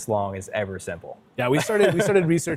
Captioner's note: laughs